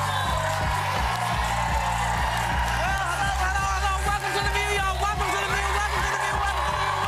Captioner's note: cheers and applause